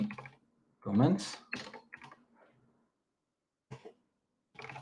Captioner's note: keyboard clacking